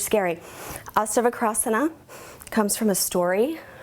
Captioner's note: speaks in foreign language